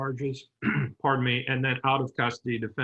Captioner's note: softly clearing throat